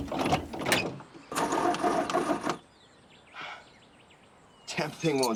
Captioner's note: engine cranking